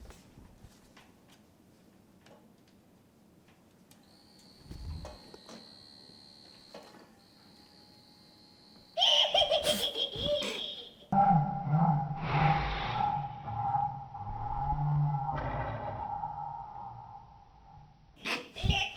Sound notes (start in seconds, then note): 4.3 motor whirring; 8.9 cackling laughter